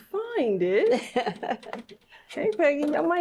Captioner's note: laughs